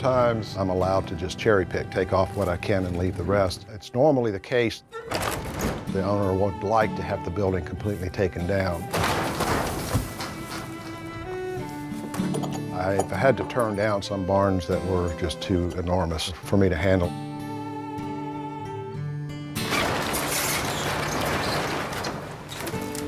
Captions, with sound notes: Sometimes, I'm allowed to just cherry-pick-- take off what I can and leave the rest. It's normally the case, the owner would like to have the building completely taken down. [structure shuddering] I've had to turn down some barns that were just too enormous for me to handle. [scraping and clattering]